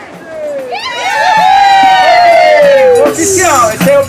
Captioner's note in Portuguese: batucada; gritos animados